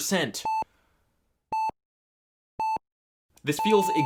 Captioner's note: heart monitor beeping